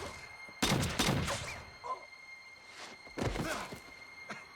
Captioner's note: gun fires; suspenseful music